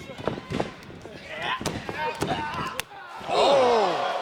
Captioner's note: wrestlers shouting